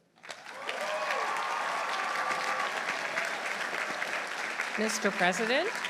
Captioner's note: audience applauding; audience cheering